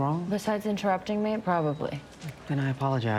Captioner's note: none